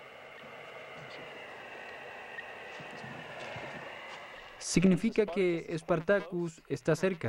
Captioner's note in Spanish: sonido radioeléctrico